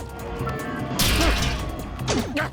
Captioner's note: metal crunching